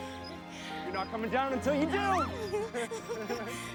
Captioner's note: kelly yelps and laughs